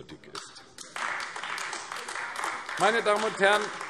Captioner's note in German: Beifall AfD